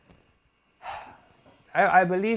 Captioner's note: sad sigh